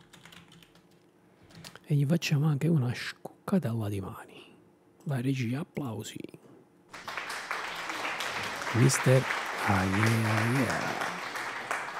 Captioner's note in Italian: Applauso